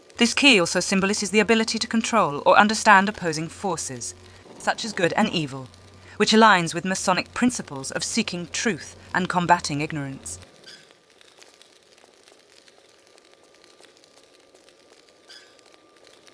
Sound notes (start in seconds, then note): none